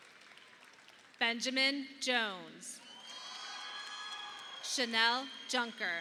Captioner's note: audience applauding